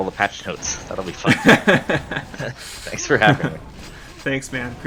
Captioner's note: laughs